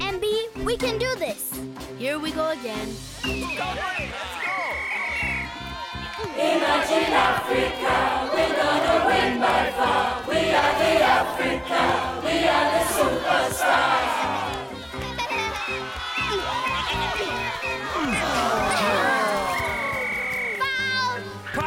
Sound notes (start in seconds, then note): 1.9 cheering; 3.2 referee whistling; 13.4 cheering; 13.4 chuckling; 16.6 whistling; 18.0 Tobor grunts